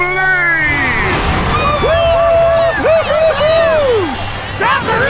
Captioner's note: cheering